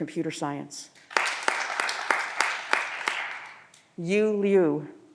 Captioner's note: audience applause